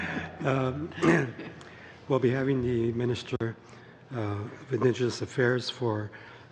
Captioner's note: laughing